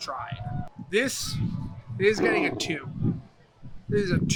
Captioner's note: bear roaring